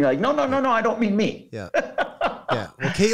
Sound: laughing

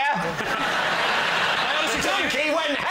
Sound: laughter

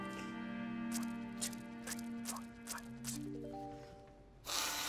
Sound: comical music; quietly; blows

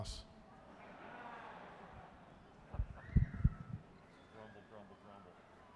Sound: audience laughing

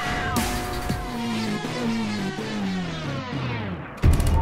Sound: upbeat music continues; tape slows to a stop; chill music

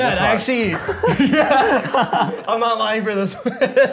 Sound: laughs

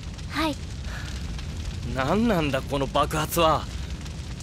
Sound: sigh

